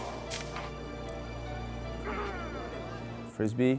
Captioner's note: rhythmic music; suspenseful music; grunt